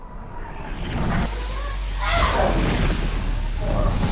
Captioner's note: zapping